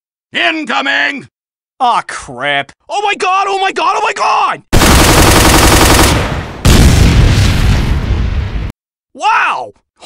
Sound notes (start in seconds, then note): 4.7 machinegun and rocketlauncher shot sounds; 6.0 explosion sounds